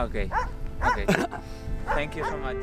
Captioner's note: dogs barking